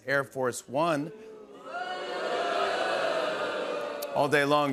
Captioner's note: audience booing